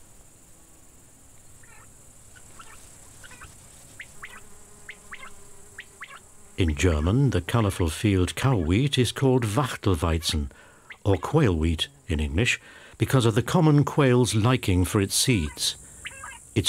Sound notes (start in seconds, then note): 1.6 quail chirps; 9.7 speaks in German